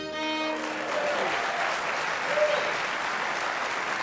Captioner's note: applause